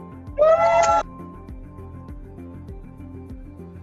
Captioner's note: cheering